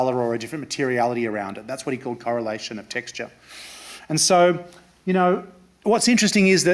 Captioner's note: none